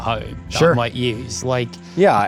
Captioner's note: pat